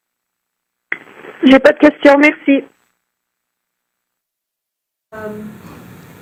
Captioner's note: speaking French